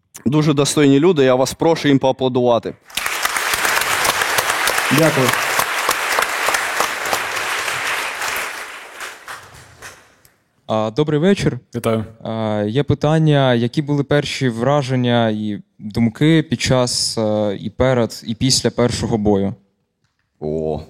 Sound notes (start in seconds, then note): 6.0 applause